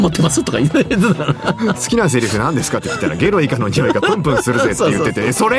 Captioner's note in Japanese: 笑い